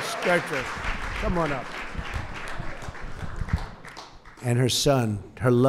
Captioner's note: applause